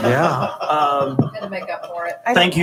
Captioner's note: laughing